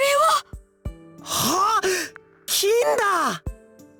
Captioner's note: gasp